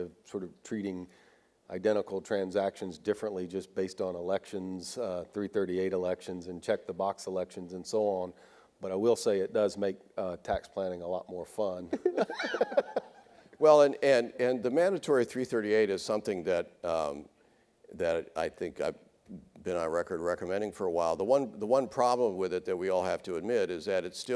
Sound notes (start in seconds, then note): 11.9 laughing